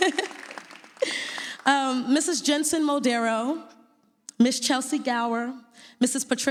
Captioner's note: laughs